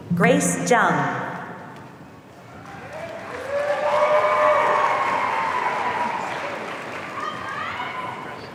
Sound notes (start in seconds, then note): 2.5 audience cheering